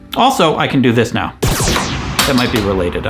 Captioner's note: lasers beaming